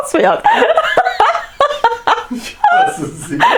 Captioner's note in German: Lacht schon wieder; Aus dem Off